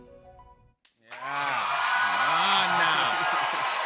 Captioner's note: cheers and applause